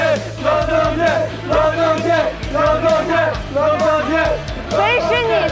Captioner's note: cheering